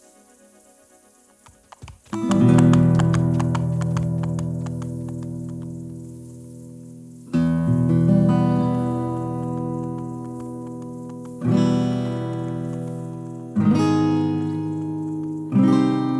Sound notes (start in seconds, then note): 1.4 horse galloping